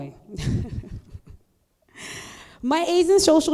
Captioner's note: chuckling